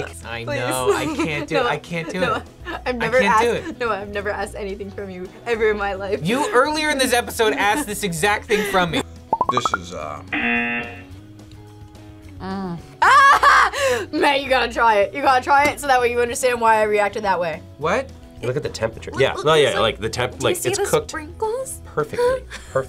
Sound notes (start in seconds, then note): 10.3 buzzer; 13.0 laughs